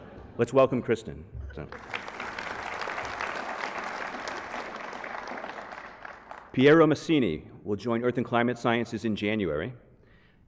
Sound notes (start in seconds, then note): 1.7 applause